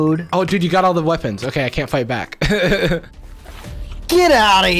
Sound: laughs

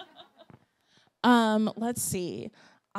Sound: laughs

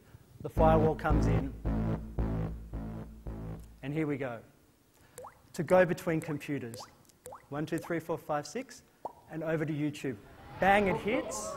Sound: beeps

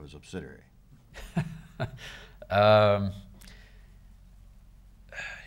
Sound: chuckling

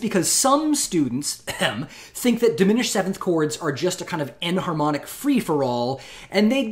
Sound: ahem

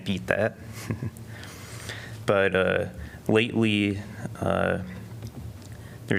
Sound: laughter

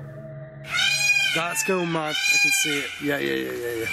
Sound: peacocks squawking

